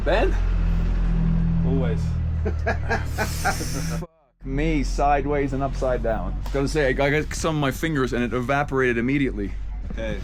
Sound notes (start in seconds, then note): 2.4 laughs